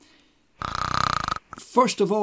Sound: snore... whistle

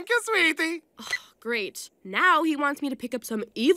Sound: sighs

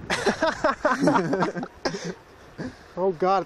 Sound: laughter

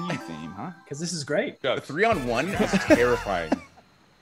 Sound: laugh

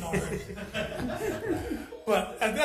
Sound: assembly laughs

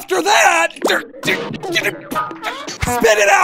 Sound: aggravated sputtering

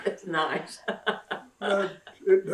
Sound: laughs

